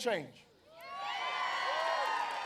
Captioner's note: applause